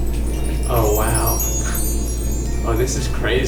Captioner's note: chimes